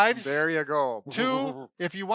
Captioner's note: laughs